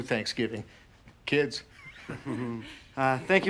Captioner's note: laughs